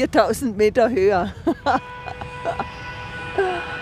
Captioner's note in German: Lachen